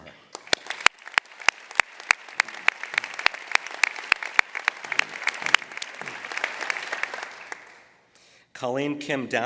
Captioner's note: applause